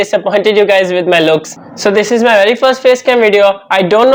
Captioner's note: laughs